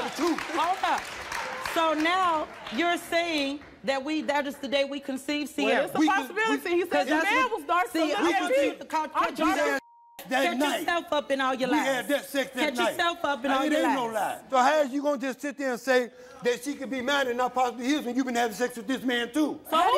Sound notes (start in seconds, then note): 8.0 everyone yelling